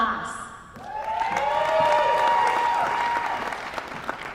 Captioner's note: applause